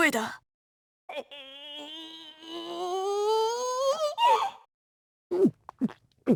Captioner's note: powering up whimper; nervous gulp